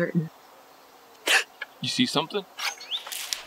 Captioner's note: gasps